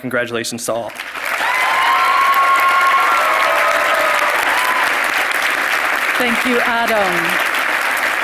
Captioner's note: applause